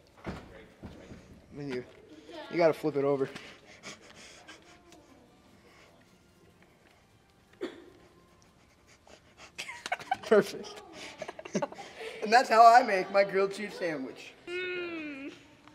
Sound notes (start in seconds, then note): 7.6 distant cough; 9.5 laughing